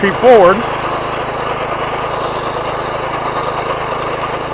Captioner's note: engine roaring